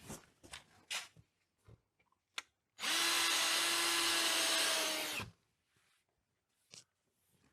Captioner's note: drill whirring